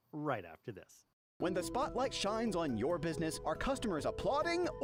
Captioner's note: voiceover